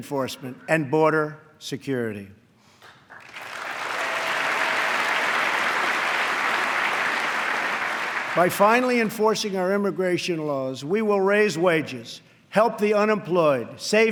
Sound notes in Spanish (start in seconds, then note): 4.7 aplauso